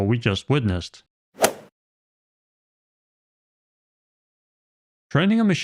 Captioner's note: golf ball hit sound effect